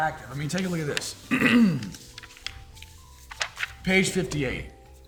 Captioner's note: clears throat